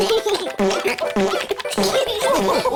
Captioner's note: giggles; laughter